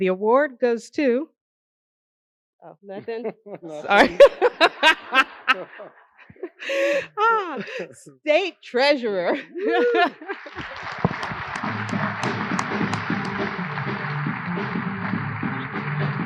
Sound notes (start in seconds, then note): 6.2 laughter; 9.1 applause